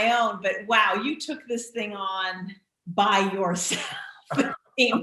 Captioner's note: laughing